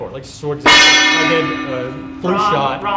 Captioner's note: gong dinging